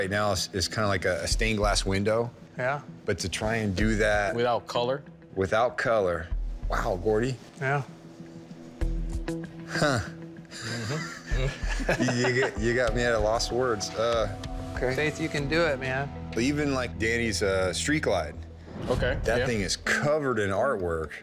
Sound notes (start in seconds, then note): 10.5 laughs